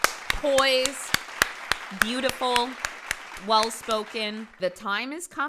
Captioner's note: claps all around mhm